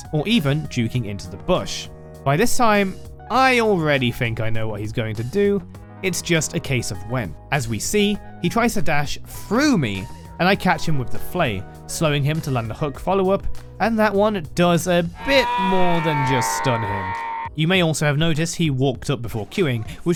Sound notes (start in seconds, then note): 15.2 Yoda Death sfx